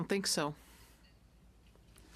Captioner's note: speaking French